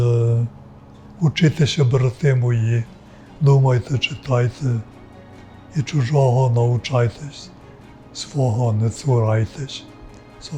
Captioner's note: speaking Ukrainian